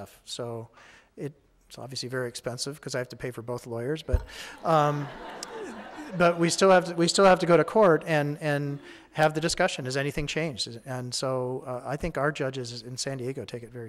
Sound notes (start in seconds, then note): 4.0 audience laughing